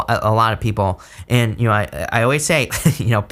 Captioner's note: chuckles